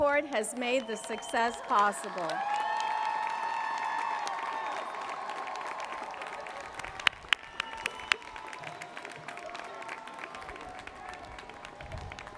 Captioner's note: applause